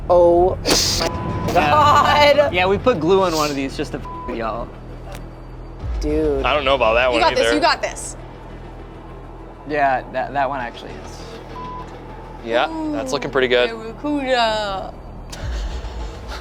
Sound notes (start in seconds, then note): 1.0 beeps